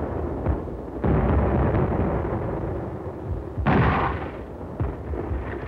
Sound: mortar fire

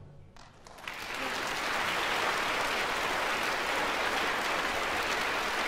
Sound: applause

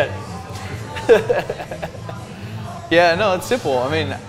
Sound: laughs

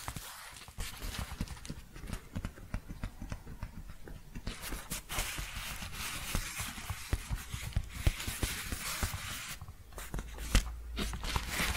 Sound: gentle tapping and shuffling

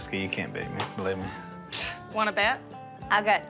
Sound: scoffs

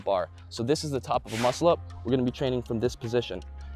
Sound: whoosh

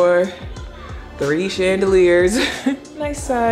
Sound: chuckles

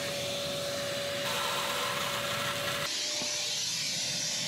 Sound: vacuum engine roaring

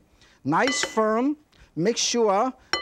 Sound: bowl clinks

